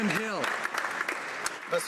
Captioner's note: applause